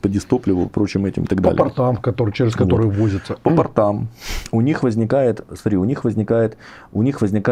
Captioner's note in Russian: фыркает